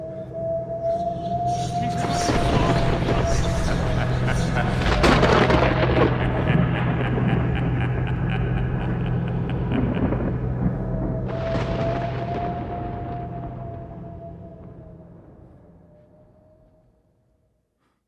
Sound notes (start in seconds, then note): 3.7 distant laughter; 8.2 ominous music